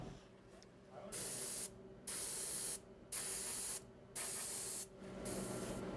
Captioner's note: cocoa spraying, hissing